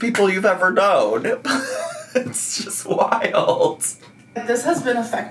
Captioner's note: laughing